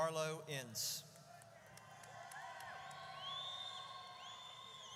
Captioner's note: audience cheers